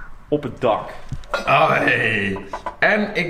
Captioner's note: primal cry